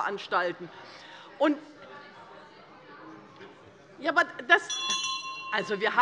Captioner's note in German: Zurufe von der CDU - Glockenzeichen des Präsidenten